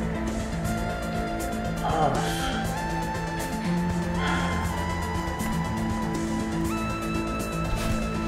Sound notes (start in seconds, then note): 3.6 sighs